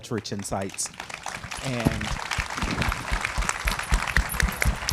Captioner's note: audience applauding